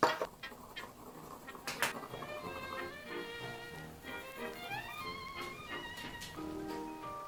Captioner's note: sound of a pencil scratching against a hard surface